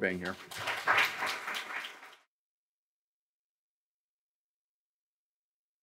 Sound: audience applauding

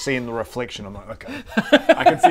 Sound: laughter

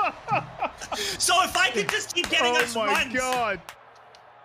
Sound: laughing

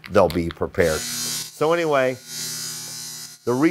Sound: bell buzzing

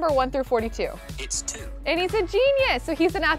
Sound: voice On Phone

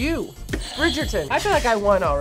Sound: buzzer rings

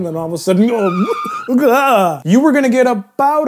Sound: tire screech

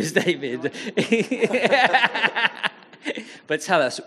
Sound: audience laughing

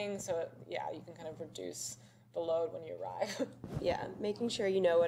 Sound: laughs

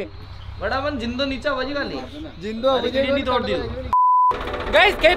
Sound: local language

